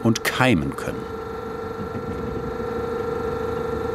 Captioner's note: machine rattles